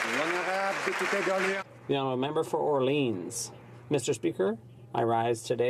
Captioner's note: some Applause